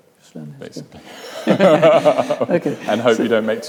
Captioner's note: both laugh